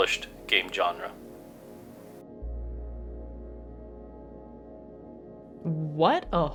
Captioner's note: moment of shocked silence as the message disapears